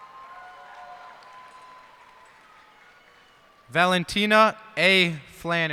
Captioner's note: cheers and applause